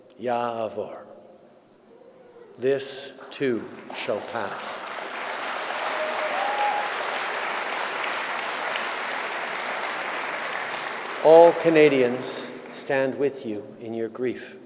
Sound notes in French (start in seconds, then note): 4.8 Applaudissements